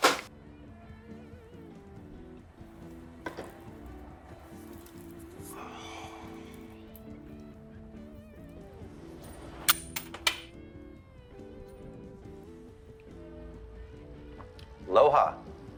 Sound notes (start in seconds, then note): 0.2 faint rock music; 5.5 Max sighing